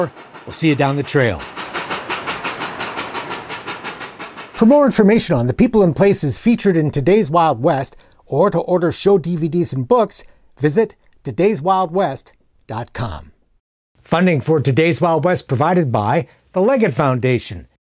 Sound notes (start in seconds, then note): 1.7 locomotive chugging